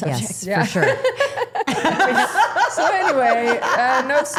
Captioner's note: everyone laughing